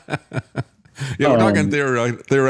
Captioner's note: laughing